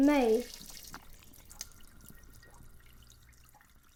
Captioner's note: water running